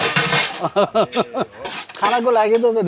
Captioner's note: laughter